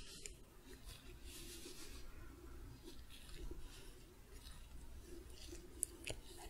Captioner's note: glove sounds, stroking